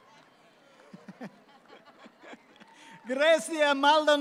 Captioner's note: audience laughs